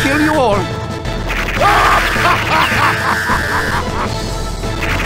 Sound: big Laugh

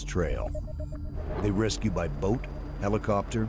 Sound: voiceover

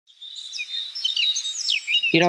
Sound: birds chirp

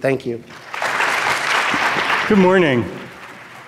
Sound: audience claps

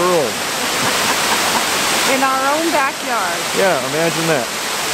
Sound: chuckles

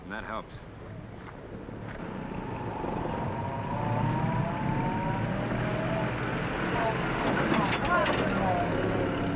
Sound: jeep approaching

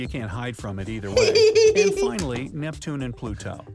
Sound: voice-over

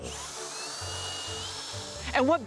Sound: mechanism whirring

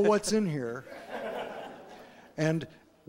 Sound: laughter

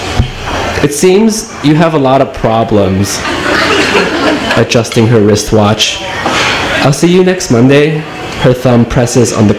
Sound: laughs

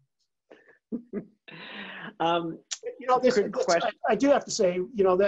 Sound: laugh

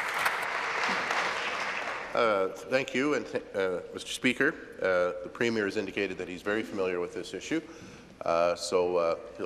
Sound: applause

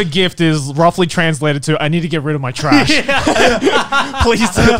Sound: everyone laughs

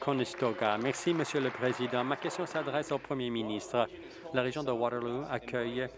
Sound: applause

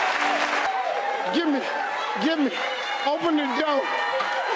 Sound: triumphant music; audience cheering

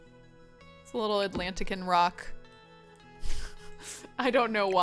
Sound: laughs

